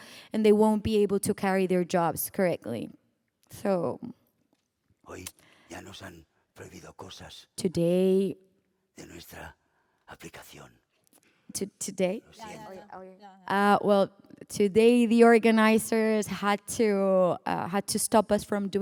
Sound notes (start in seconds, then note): 4.9 speaking spanish